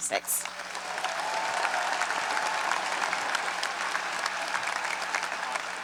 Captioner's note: audience applauds and cheers